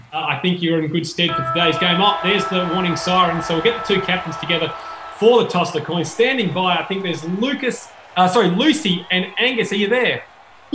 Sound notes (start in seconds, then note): 1.3 siren blares